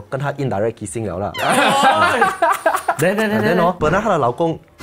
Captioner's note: laughs